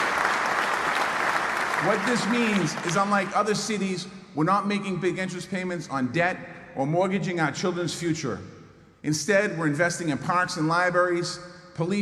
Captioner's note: applause